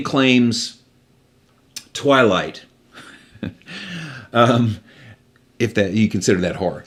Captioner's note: laughing